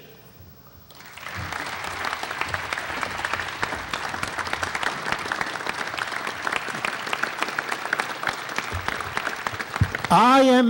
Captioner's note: applause